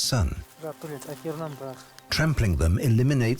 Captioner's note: speaking Quechuan